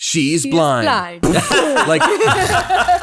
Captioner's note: laughing loudly